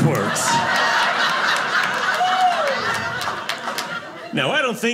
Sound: audience laughing

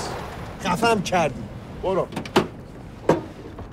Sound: speaking foreign language

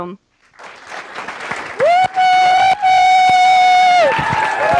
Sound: applause

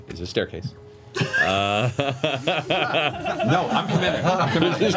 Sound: all laughs

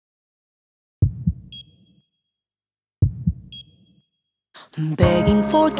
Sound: heart thumping; machine beeping

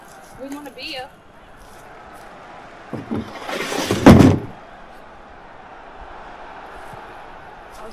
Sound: football game playing

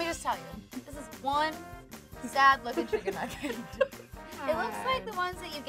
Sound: laughs

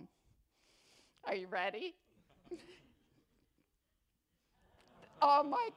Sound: attendees laugh

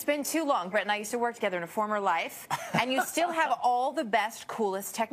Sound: laughter

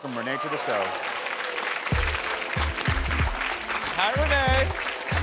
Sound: audience applauds; upbeat music

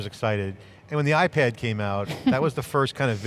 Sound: chuckles

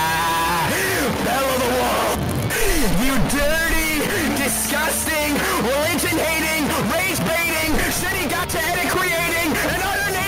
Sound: laughs uncontrollably

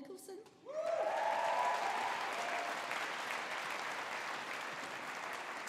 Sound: audience applauding

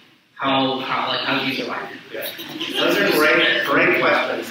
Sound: audience laughs

